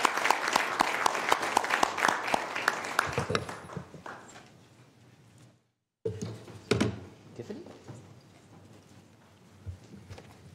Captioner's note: applause